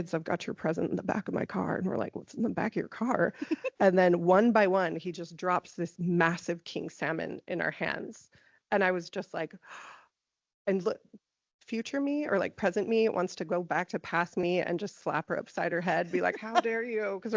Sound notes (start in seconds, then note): 9.7 gasping